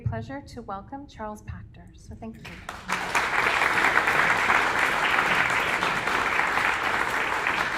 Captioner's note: applause